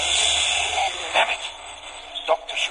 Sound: A loud bang, smashing glass and hissing gas is heard

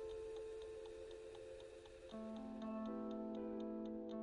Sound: clock ticking

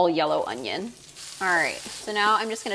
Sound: sizzling

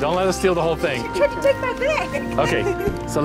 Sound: laughter

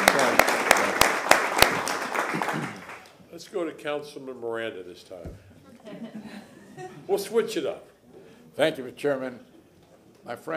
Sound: applause

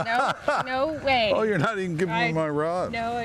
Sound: laughing

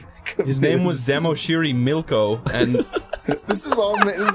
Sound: laughs

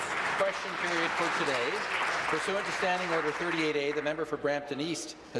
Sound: applause

